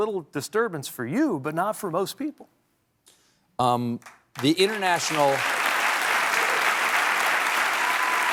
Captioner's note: applause